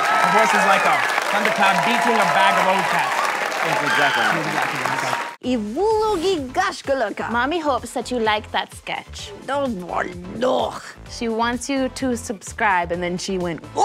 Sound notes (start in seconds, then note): 5.5 speaking russian; 9.5 speaking russian